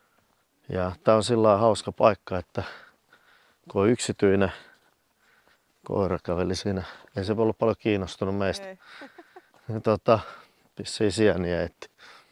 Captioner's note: laughed a little